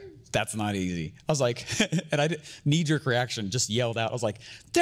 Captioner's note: laughing